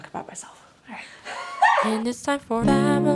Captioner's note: offscreen laughter